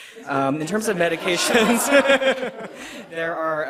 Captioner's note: laughter